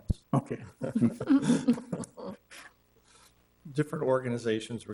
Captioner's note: all laughing